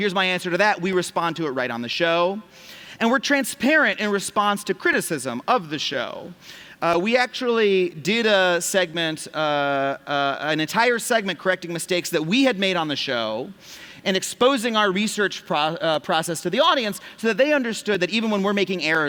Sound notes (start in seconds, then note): none